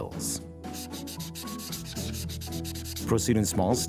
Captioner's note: light upbeat music; eraser erasing